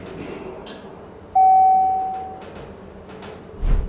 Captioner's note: ding!